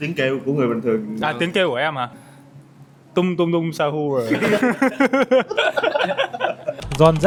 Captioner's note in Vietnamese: tiếng cười